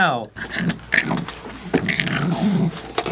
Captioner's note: ravenous snorting